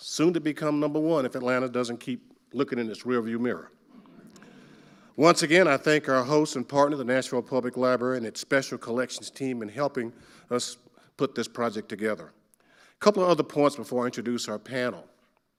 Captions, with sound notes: soon to become number one, if Atlanta doesn't keep looking in its rearview mirror. (audience laughing quietly) Once again, I thank our host and partner, the Nashville Public Library and its Special Collections team, in helping us put this project together. Couple of other points before I introduce our panel.